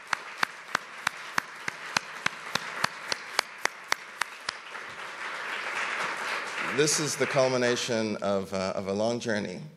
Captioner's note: applause